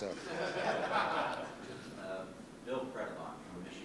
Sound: laughter

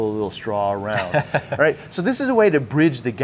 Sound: chuckles

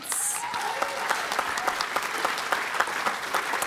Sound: applause

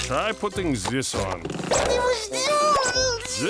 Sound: mumbling, crying

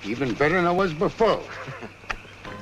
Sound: laughs

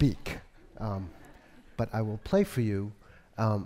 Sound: audience laughs

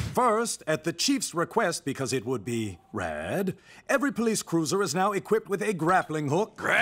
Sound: none

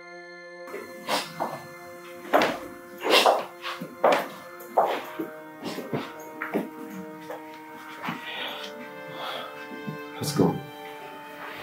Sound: crying

